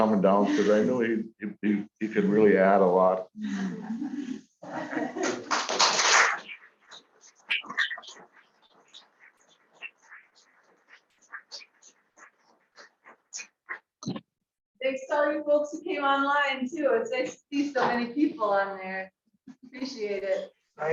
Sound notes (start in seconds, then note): 5.4 applause